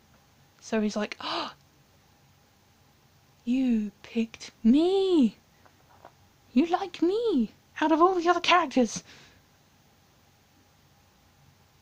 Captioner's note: dramatic gasp